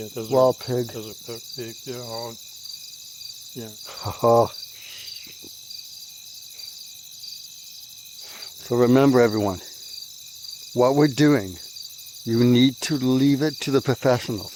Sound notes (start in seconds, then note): 2.5 crickets; 3.8 evil laugh; 5.1 crickets